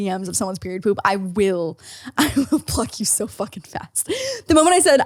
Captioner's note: laughs